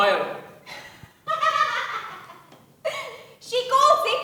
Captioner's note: Jill laughs